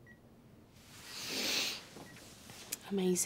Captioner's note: Ashley snivels